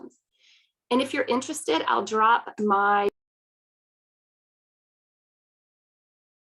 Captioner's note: lost audio